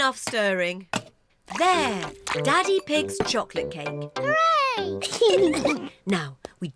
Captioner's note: giggles